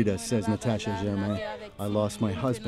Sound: speaking alternate language

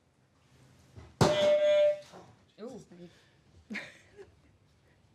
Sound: honk

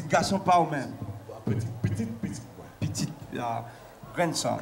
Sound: speaking in local tongue

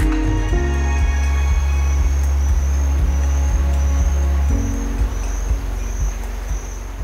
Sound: inspiring music; crickets chirping

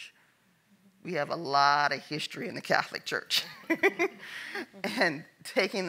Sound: laughs

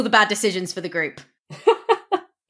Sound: laughs

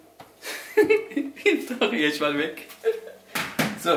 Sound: giggling

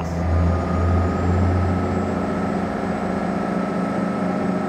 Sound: engine revving

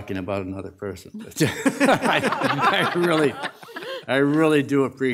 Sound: audience laughing

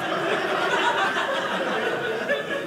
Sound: audience laughing

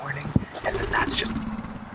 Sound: creature growls

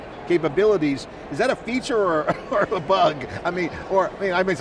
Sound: laughs

